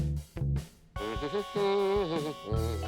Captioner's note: humming